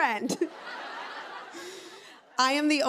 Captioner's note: laughter